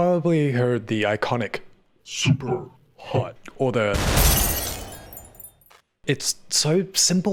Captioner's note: glass shattering death sound